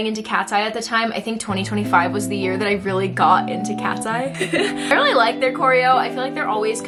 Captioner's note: more giggles